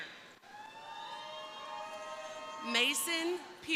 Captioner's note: crowd cheering